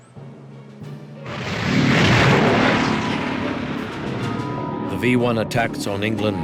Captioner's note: V-1 engine roaring